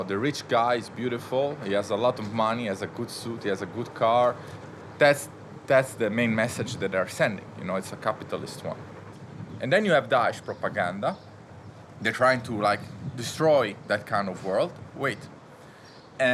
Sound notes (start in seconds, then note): none